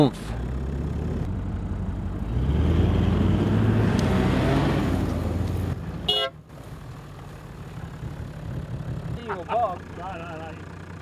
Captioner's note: vehicle sounds